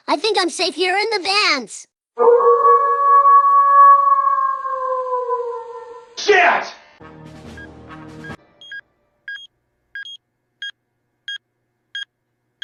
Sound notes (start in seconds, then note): 2.2 Loona Howls; 9.2 beeping